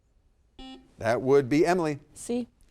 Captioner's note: buzzer dings